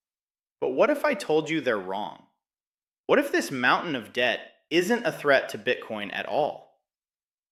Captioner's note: excited